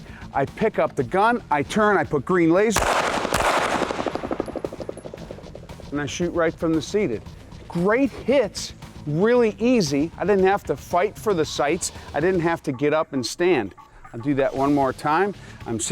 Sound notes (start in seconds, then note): 2.7 gun firing